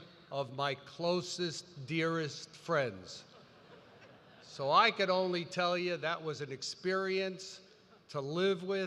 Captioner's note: laughter